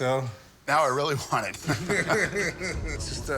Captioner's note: laughter